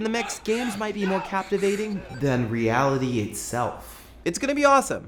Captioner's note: echoing